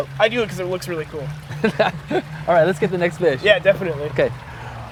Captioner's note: laugh